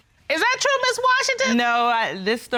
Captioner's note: none